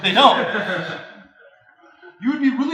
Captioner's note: students laugh